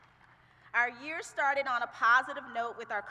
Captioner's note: applause